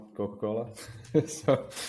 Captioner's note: chuckles softly